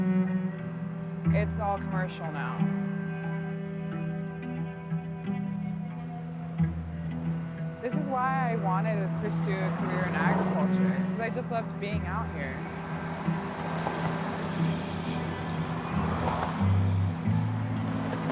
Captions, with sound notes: It's all commercial now. (intense music continues) This is why I wanted to pursue a career in agriculture, 'cause I just loved being out here. (traffic whooshing)